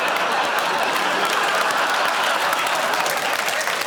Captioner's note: laughter